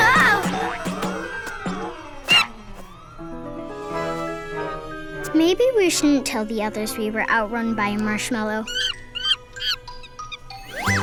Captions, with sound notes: Oh! (monkey squeaks) Maybe we shouldn't tell the others we were outrun by a marshmallow. (monkey squeaks)